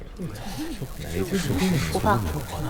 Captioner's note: conversation plays from the surveillance monitor